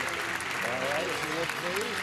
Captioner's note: clapping